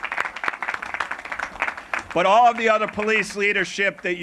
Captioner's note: applause